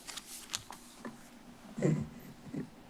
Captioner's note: rustles